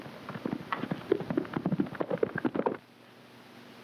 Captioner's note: hooves clopping